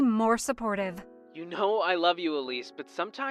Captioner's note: phone vo